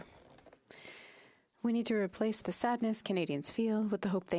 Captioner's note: speaking French